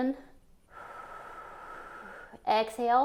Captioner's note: exhales